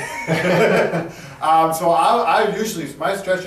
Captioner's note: both laugh